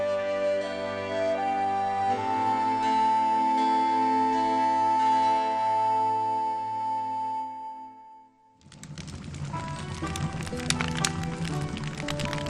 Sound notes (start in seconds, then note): 0.0 solemn music continues; 8.5 fire crackling; 9.6 gentle music